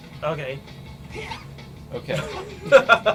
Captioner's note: the kid squeaks